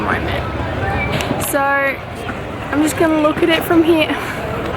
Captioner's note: laughs